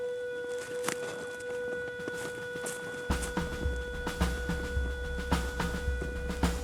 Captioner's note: footfalls crunching